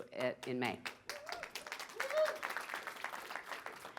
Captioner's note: applause